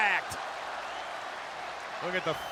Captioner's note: crowd cheering